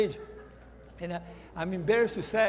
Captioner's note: laughter